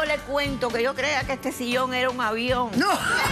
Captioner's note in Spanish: risas